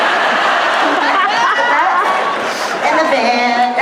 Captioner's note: laughter